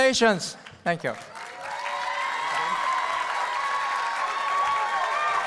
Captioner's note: applause and cheering